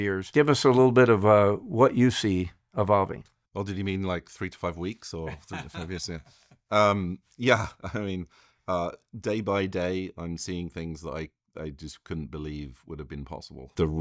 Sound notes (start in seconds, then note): 5.2 laughing